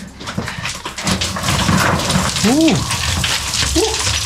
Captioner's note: rocks falling